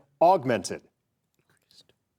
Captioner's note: girl whispers